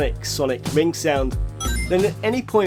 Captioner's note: ring sound